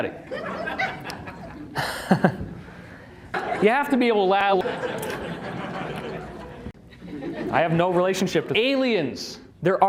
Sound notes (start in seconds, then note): 0.2 2-3 audience members laugh; 0.4 uncomfortable chuckle; 4.7 uncomfortable laughter